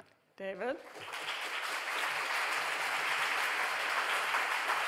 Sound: audience applauding

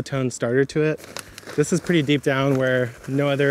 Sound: bag crinkles

